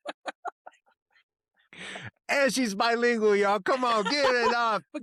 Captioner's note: laughs